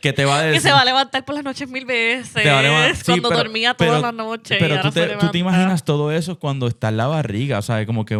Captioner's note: applause